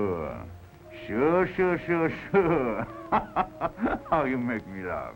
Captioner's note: laughs